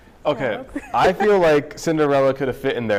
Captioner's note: laughter